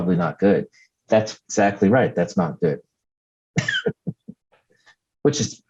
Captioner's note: laughs